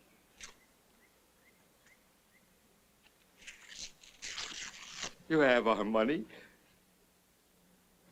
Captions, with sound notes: [ RIPPING TICKETS ] You have our money,